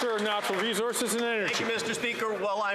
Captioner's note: some Applause